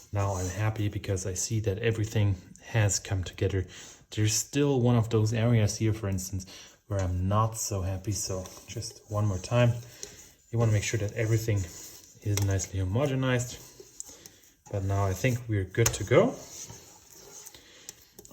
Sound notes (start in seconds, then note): none